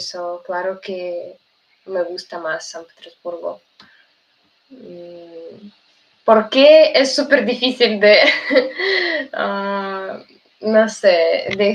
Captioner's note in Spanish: risas